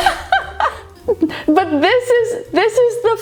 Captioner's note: laughing